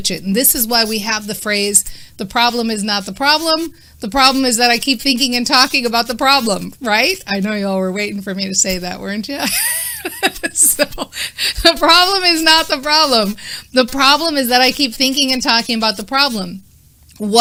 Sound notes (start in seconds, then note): 9.4 laughing